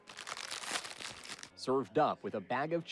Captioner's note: bag rustling